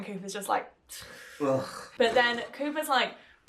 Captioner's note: sighs